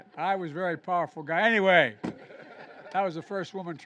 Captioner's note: laughter